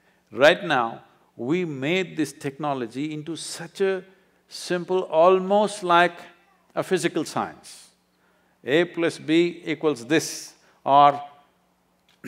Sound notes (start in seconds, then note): none